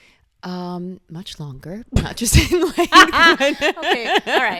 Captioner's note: laughter